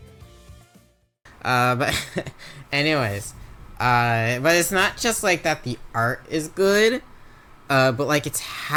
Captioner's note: laughs